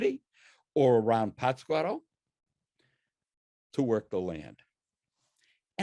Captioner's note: speaks in foreign language